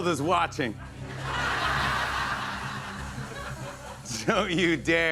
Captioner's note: laughter